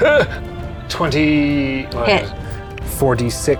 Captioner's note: die rattling; grunts